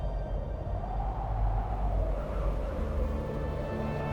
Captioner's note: wind howling